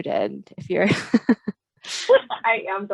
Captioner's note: laughs